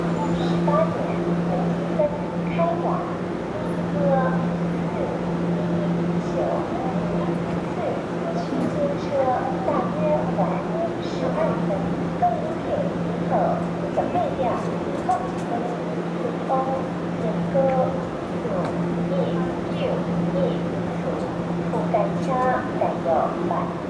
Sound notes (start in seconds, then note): 12.2 Taiwanese